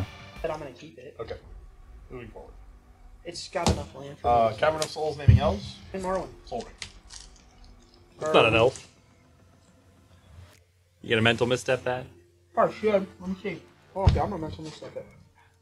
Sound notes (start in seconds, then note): 10.8 sarcastically